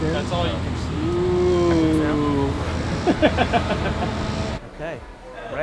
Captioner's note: chatting and laughter